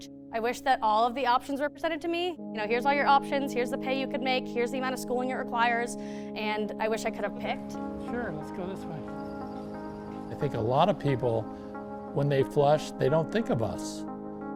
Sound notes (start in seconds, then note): 7.7 walking